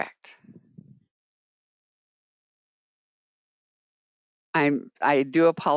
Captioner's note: 5 seconds pause